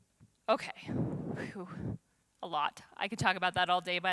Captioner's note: exhales